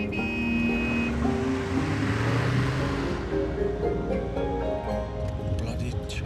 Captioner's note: horn honking; gentle music